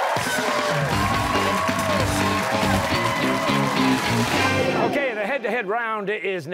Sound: cheers and applause

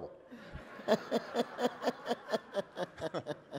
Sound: laughter

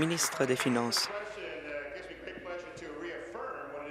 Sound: applause

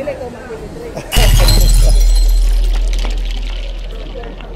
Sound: glass breaking

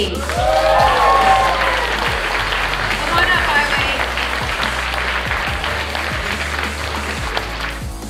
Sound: clapping

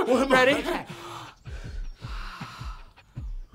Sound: deep breathing; soft drum machine beat in background

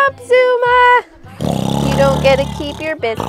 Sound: snoring

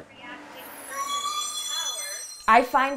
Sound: garbage truck screeching sounds

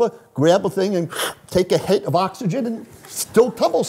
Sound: inhales

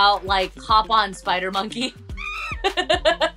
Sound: laughing; monkey screams

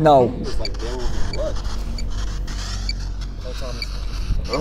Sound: radio static

